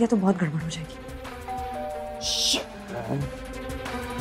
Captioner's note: Doorbell ringing